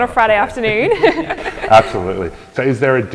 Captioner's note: laughs